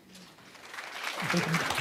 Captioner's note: applause